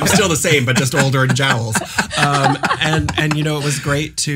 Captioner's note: laughs